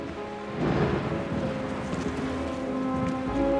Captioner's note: thunder rumbling; dramatic music